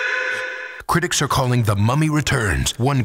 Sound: voiceover

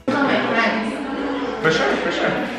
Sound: overlapping chatter

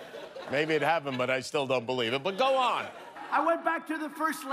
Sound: laughter

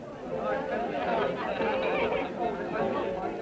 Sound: lively chatter

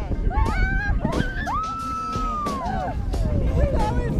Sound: screaming and laughing

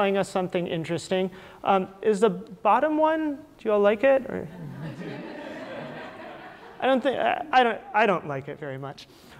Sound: audience laughter

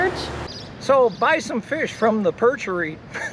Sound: chuckle

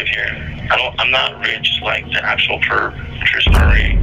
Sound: camera shutters and bass echoes

